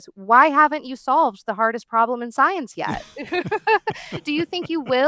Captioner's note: laughs